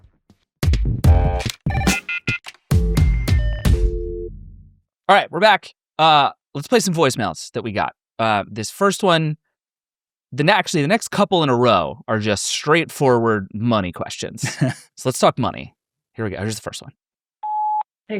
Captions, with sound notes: (upbeat music) (phone ringing) - All right, we're back. Let's play some voicemails that we got. This first one, actually the next couple in a row are just straightforward money questions. So let's talk money. Here we go. Here's the first one.